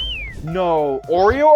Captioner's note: person whistling